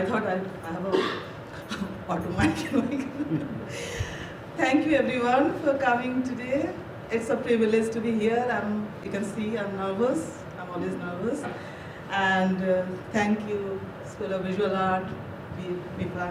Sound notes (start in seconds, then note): 2.4 laughs